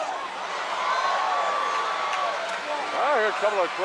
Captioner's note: audience cheers